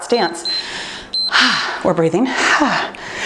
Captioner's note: timer beeps; exhales deeply